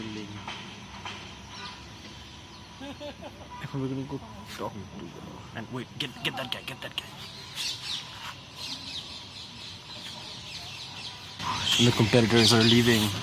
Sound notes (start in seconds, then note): 2.6 distant crying